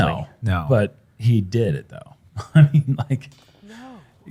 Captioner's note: laughs